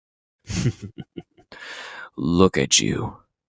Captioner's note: chuckling